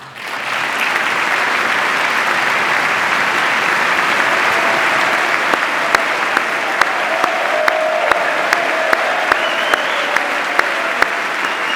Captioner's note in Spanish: aplauso